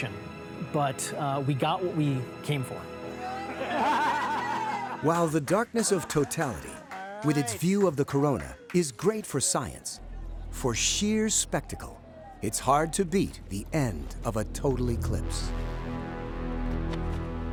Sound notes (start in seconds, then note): 3.2 cheering, laughter